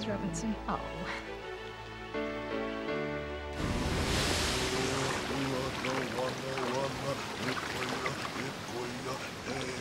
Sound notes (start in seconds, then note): 3.5 water splashing; 4.5 non-english speech